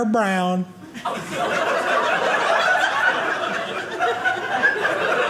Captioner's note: audience laughing